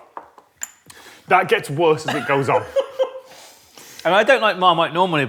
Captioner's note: giggles